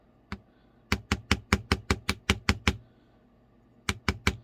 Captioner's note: more tapping